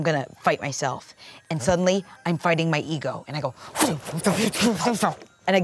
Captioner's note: groans